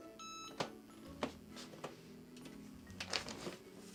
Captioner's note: beeping